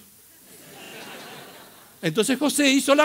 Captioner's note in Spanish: risas